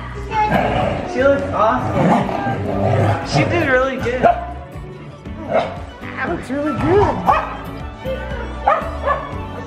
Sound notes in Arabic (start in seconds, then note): 7.2 كلب ينبح